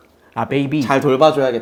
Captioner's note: wah